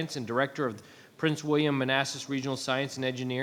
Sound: none

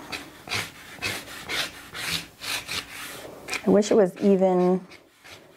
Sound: marker scrapes

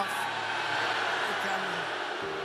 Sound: crowd jeering

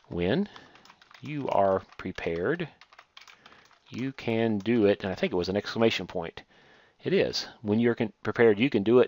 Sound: typing

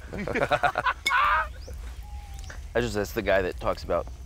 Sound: laughing

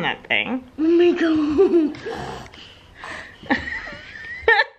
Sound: laughs

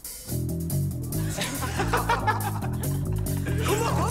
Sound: laughter

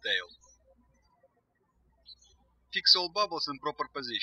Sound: birds chirping

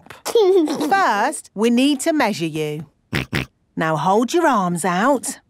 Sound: snorts

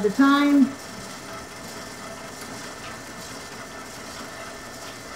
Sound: machine whirring

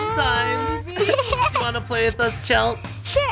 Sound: Chelsea giggling

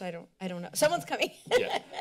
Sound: laughter

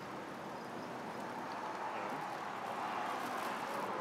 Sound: street din

